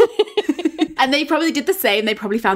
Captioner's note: both laughing